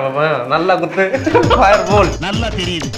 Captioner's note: laughter